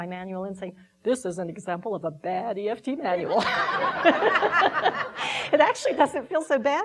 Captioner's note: laughing